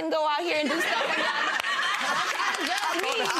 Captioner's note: gallery laughs